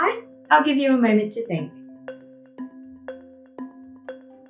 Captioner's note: timer beeps